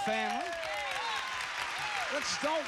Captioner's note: cheers and applause